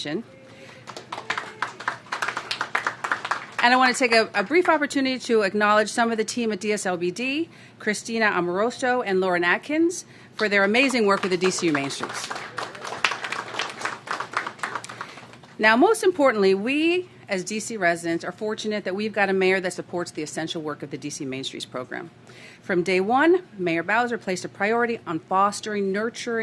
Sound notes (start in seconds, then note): 13.9 applause